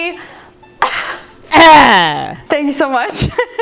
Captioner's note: coughing